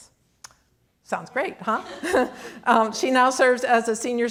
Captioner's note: audience laughing